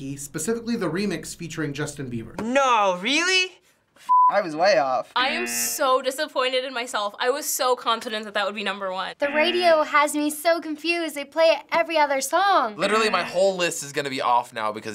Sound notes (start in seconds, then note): 5.3 buzzer